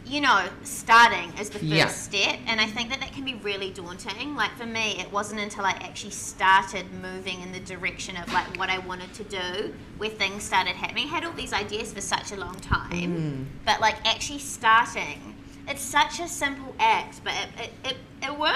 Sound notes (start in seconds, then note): none